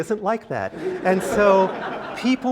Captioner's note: laugh